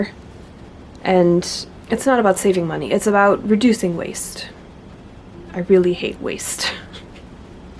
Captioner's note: laughs